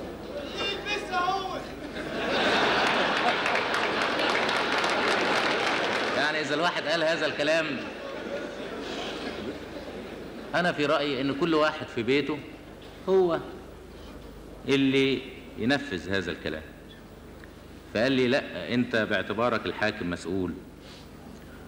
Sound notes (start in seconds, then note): 1.7 audience laughter; 2.8 applause